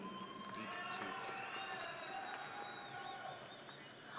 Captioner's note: audience cheering